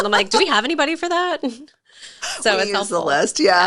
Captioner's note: laughing